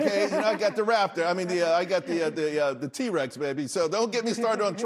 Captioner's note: laughter